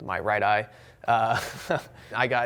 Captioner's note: chuckles